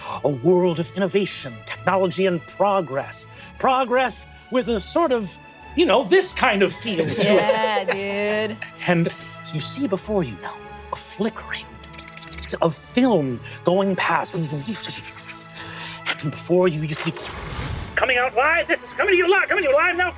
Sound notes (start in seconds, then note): 11.8 mimics filmstrip crackling; 14.2 mimics filmstrip whooshing